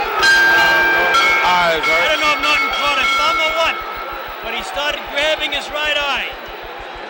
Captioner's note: bell sounds